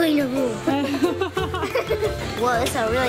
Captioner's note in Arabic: ضحك